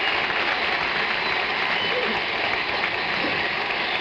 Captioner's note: audience applauding